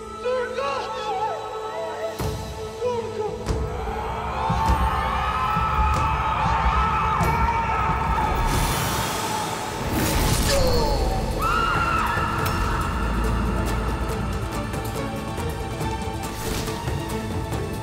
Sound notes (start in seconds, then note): 5.7 Çığlık sesleri; 13.0 Müzik - Aksiyon